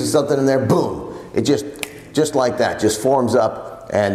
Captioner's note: snaps fingers